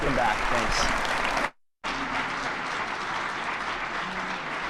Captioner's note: attendees clapping